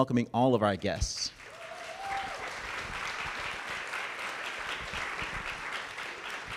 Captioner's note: audience cheering and clapping